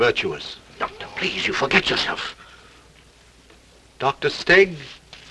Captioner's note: whispering